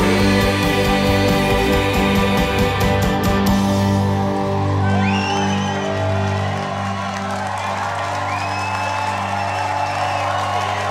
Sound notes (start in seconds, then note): 4.2 cheering